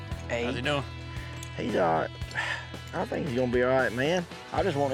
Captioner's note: none